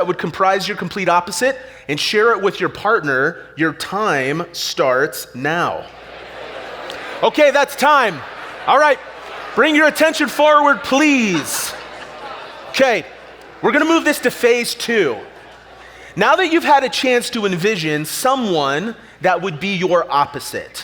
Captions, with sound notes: that would comprise your complete opposite, and share it with your partner. Your time starts now. (audience chatter) Okay, that's time. All right, bring your attention forward please. Okay, we're going to move this to Phase Two. Now that you've had a chance to envision someone that would be your opposite,